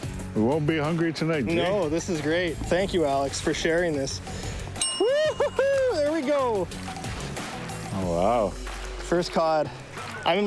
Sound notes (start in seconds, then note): 4.8 text dings